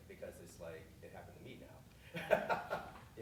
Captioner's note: laughing